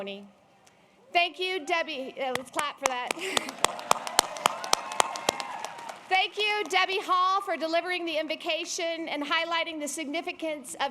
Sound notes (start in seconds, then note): 2.8 applause